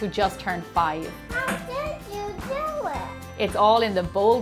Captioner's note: little Boy's Voice